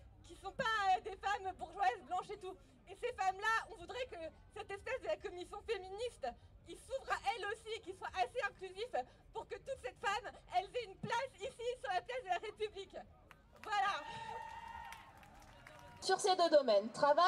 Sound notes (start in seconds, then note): 13.6 cheering